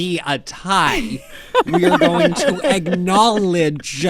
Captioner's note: laughter